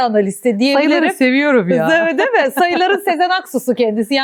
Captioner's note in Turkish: kahkaha; kahkaha